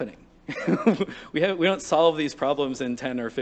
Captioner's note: laughter